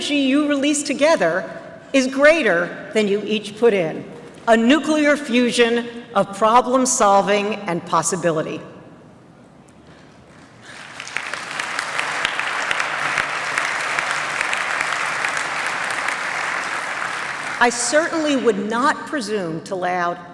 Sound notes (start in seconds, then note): 10.2 applause